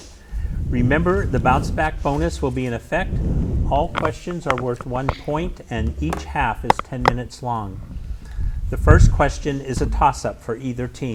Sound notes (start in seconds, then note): none